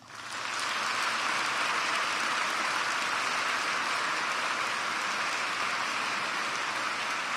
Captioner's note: applause